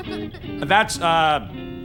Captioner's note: laughs